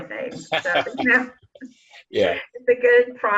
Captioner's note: laughter